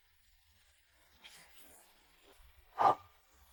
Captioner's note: pffft